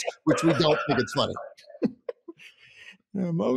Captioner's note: both laughing